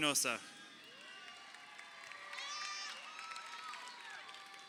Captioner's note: crowd cheering